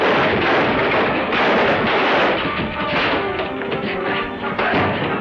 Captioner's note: table crashes; punches landing